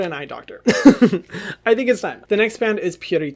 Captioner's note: laughs